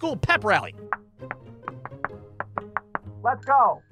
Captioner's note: clapping rhythmically